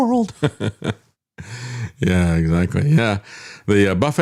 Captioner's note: laughs